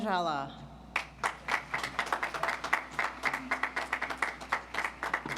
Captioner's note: audience applauds